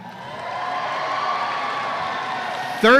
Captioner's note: audience cheers